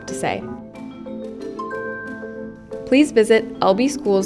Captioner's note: computer chimes